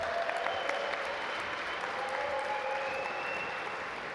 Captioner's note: audience applaud